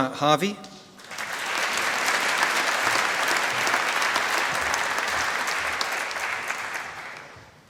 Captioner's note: applause